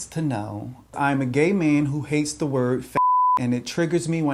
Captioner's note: beep